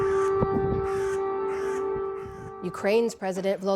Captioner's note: sirens blaring